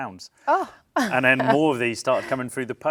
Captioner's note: chuckles